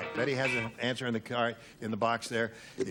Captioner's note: ding